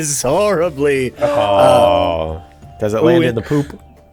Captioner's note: chorus of awwws